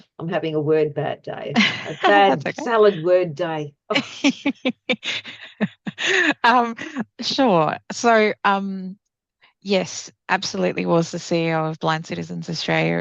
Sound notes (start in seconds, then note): 3.9 laughs